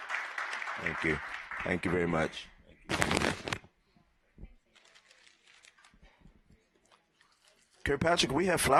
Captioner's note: applause